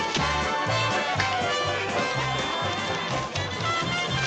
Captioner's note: تصفيق